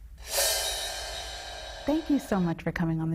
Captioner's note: footage whooshes